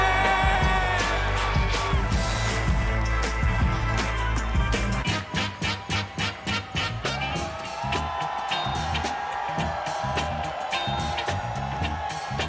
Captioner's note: cheers and applause